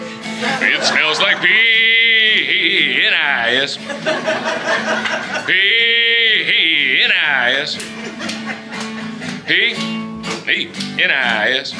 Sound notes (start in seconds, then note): 4.1 audience Laughing; 7.5 audience Laughing/Clapping in rhythm